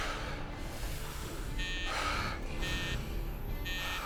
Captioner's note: buzzer Sounding